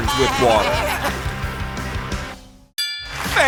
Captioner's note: bleating